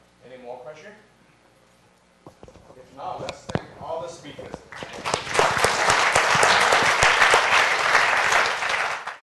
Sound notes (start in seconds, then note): 4.7 applause